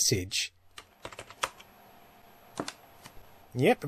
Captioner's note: taps keys